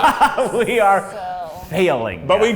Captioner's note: laughs